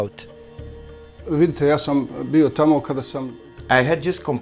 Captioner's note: speaking foreign language